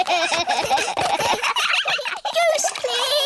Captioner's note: all giggling